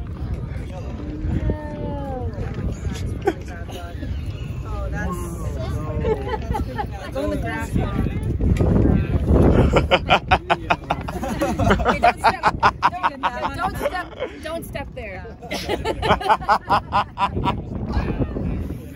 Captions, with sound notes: [laughing] -Don't step there. -[all laughing again]